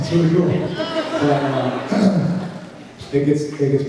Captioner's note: clears throat